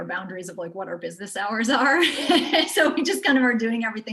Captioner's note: laughs